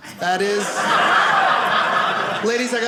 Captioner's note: audience laughing